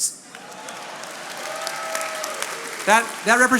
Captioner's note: attendees cheering and applauding